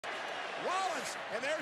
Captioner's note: crowd cheers